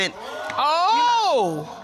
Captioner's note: audience exclaims